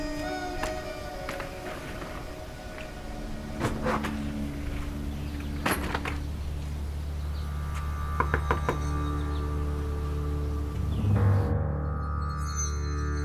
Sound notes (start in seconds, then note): 0.9 suitcase rolls; 7.7 door knocks